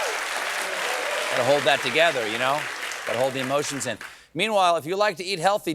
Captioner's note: applause